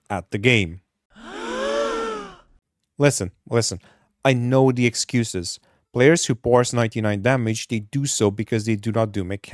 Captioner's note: gasp